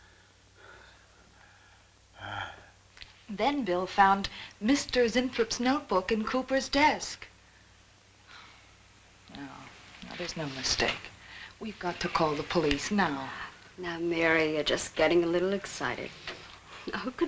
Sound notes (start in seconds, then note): 2.2 groaning